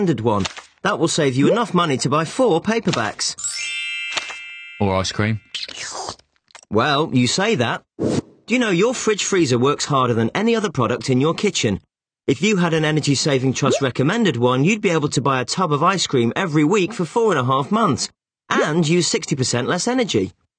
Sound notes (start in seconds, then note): 5.6 slurping